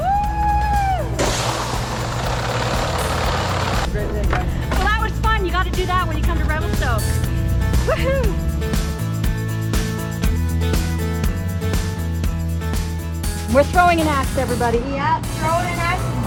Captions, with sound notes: Wooh! (sledge rattles) But that was fun. You got to do that when you come to Revelstoke. Whoo. (bright music) - We're throwing an Axe, everybody. - Yup.